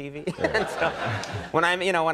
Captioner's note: crowd laughing